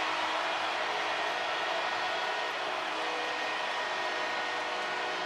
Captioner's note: cheering